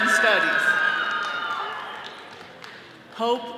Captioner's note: all cheering